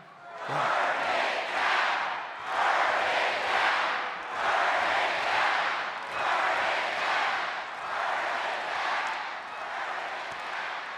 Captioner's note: applause